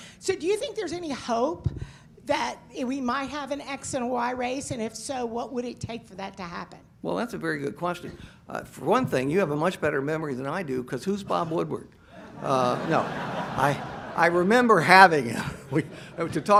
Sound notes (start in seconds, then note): 12.2 audience laughs